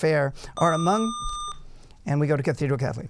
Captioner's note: buzzer